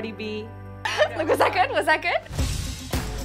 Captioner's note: laughs